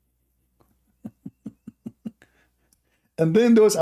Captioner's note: Ketawa